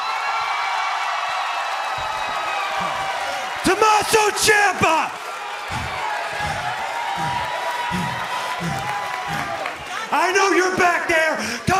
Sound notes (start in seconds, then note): 0.1 cheers and applause; 8.3 breathing hard